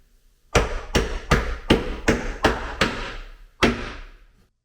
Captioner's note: mallet bangs